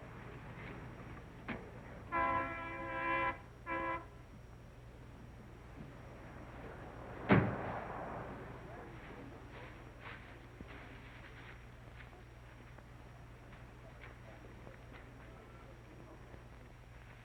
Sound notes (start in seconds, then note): 2.1 honking sound; 7.3 door slams; 12.9 footsteps dimming